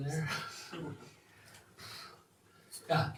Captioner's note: chuckles